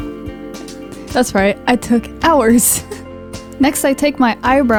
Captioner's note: laughs